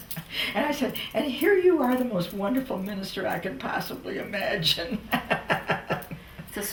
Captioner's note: laughter